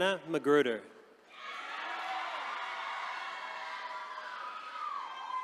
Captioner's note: attendees cheering